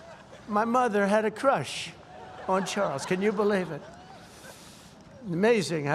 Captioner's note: laughter